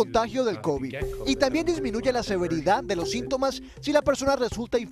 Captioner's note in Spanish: HABLA EN INGLéS